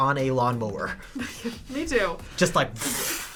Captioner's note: laughs